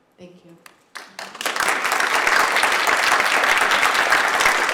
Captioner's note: audience applauds